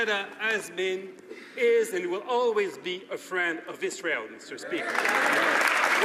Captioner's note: some Applause